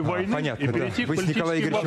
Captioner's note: speaking non-english